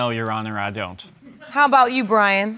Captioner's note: audience laughs